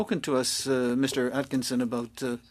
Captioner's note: speaking French